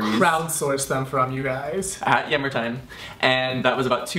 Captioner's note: none